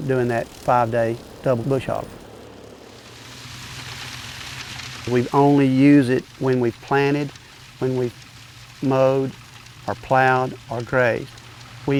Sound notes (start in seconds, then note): 5.5 background farm machine sound